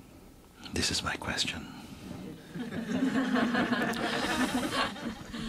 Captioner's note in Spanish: risas